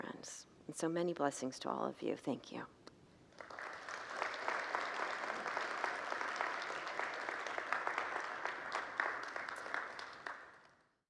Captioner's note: congregants applaud